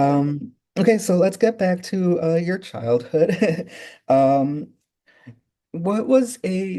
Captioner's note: laughing